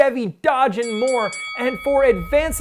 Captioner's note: bell rings